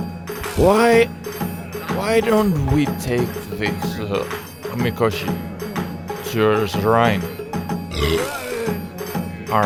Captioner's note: burps